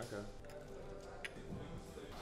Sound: eating

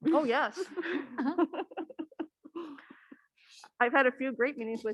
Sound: panelists laughing

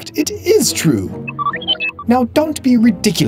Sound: R2-D2 noises

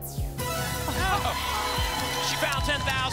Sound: applause

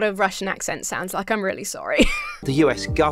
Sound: laughs

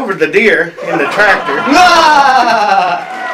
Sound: laughter

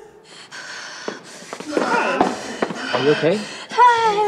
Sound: chuckles; hyperventilating

